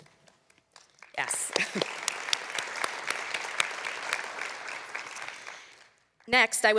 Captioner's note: applause